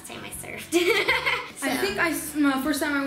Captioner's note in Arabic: يضحك